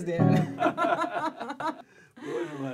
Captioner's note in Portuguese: Risadas